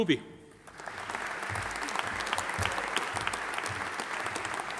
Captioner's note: audience applauding